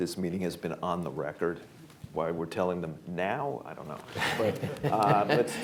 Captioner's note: laughter